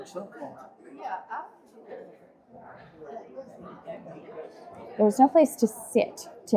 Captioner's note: crowd chattering